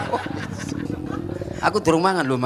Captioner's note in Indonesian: suara perut